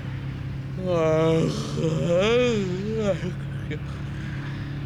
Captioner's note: yawning